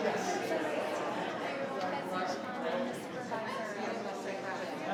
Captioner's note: people chattering